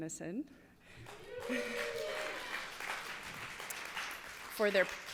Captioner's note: cheering, applause